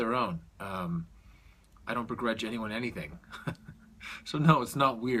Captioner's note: chuckles